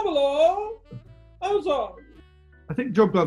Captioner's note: high pitched